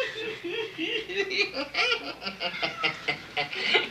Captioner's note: laughs